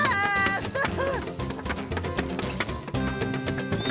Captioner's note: paint Cans Clanking